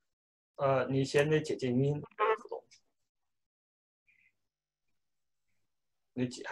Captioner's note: speaking in foreign language